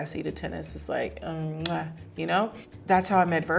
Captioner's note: lips smacking